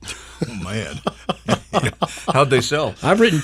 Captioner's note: planter laughs